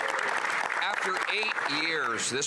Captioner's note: applause